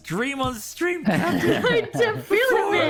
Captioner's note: laughs